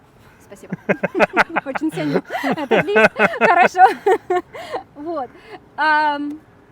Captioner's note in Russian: оба смеются